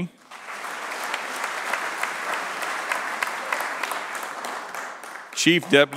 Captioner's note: applause